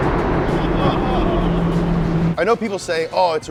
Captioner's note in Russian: эхо двигателя в туннеле; смеющийся